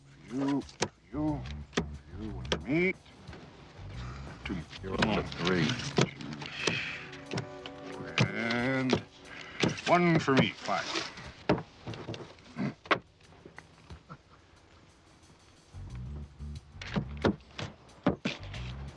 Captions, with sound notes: For you, for you, for you, me. - Dude, you're only at three. - And, one for me, five. (man laughing) (mellow music)